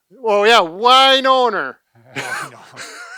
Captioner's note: laughs